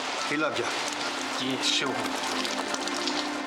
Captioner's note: sarcastically